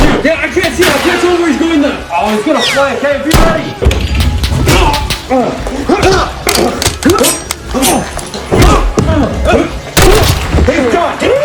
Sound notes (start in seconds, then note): 6.5 gun drops; 7.0 knife slashes; 9.9 blood splatters; 10.0 gunshot